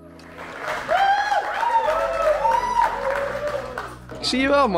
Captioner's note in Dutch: Applaus